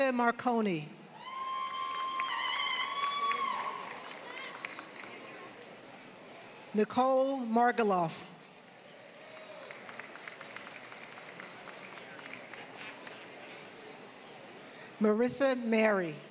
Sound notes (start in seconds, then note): 0.0 applause; 8.4 applause